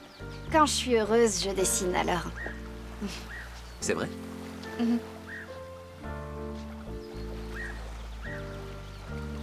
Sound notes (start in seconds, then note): 3.2 bird calling